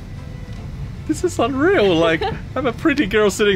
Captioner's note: laughs